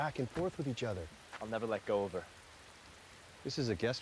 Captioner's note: none